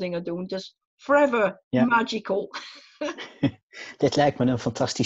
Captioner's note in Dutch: lacht